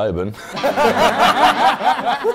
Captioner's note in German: Gelächter